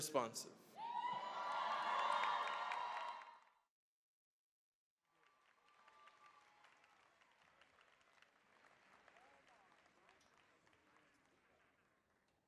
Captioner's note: cheering, applause